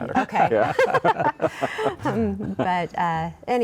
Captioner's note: all laughing